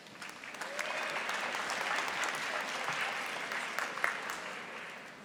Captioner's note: audience applauding